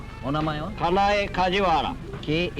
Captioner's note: speaking Japanese